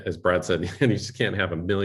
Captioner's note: laughter